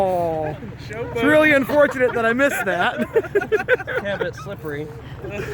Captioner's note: laughing